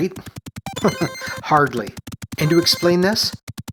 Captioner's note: chuckles